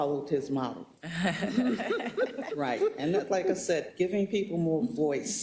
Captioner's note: laugh